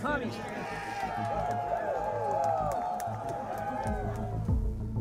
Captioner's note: crowd shouting